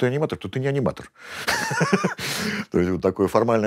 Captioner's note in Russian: смеется